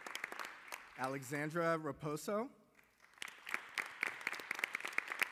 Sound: applause

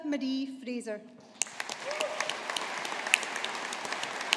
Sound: audience applauding

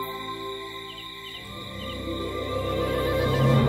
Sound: crickets chirping

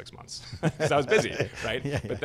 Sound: laughs

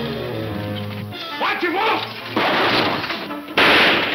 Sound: gunshots

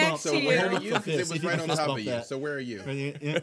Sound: group murmuring

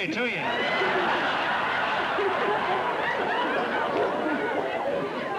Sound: laughter

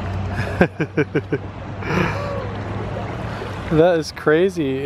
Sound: chuckles

